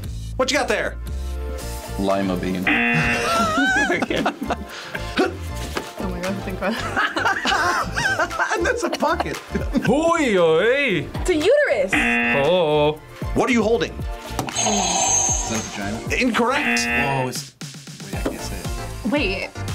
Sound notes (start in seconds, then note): 2.6 buzzer; 2.9 React laughs; 5.1 React grunts; 6.7 both laugh; 11.9 buzzer; 16.5 buzzer rings; 16.5 buzzer